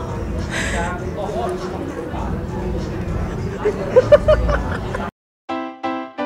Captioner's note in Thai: หัวเราะ